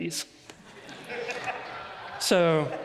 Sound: audience laughs

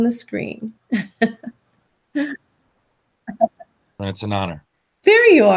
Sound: chuckling

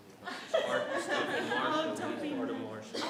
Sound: women laugh

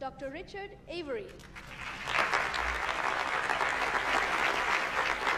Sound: audience applauding

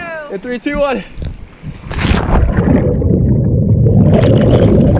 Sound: splashing and gurgling

